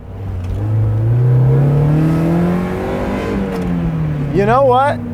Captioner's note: engine revving